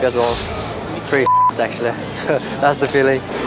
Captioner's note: beep